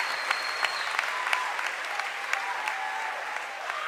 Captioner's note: cheering and applause